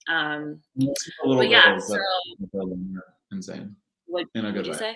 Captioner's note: microphone distorts